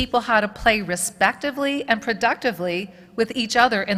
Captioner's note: none